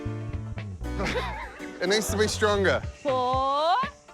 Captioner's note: laughs